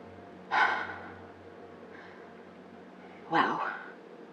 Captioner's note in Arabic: راشيل تتنهد